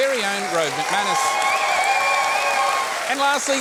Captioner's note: cheering and applause